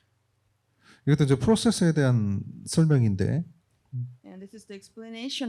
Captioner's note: speaking korean